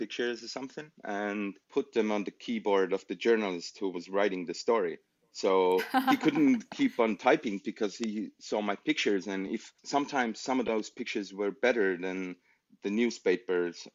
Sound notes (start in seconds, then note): 5.7 laughter